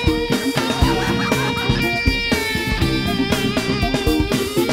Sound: women laughing

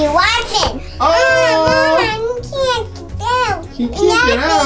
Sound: cute playful noises

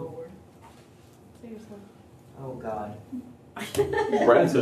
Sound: laughter

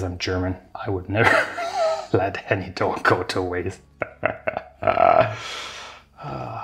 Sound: chuckling

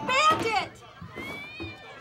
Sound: Bandit screeches; Bandit howls

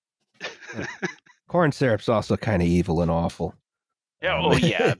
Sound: laughter

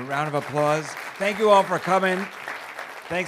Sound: students clap

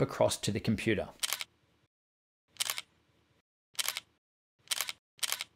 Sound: camera stutters

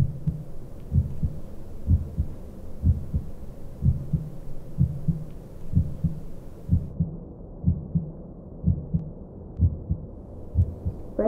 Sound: heart beating

